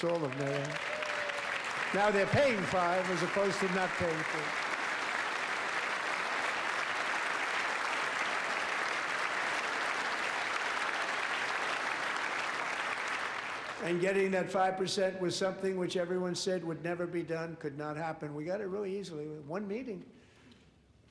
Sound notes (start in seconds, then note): 12.4 applause